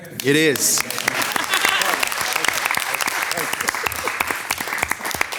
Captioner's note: all clapping